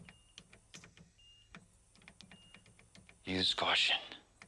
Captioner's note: machines beeping